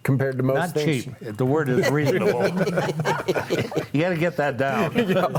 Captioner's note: panelists laughing